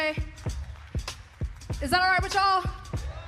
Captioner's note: cheers